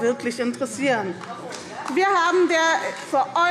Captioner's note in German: Beifall